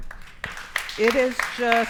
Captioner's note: audience applauds